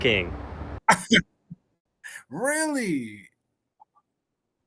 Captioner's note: laughs